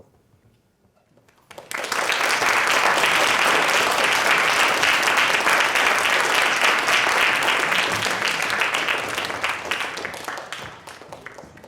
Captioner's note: audience applauding